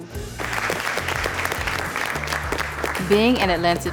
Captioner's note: applause